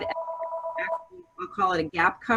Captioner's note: phone rings